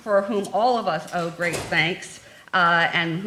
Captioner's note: door slams